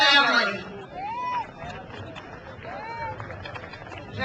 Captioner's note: crowd cheers